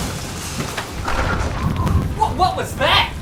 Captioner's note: laser whooshing; wind whooshing